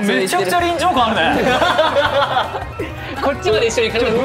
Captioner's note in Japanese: 笑い